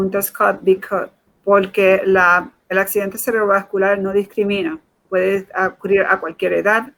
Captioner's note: speaking in Foreign Language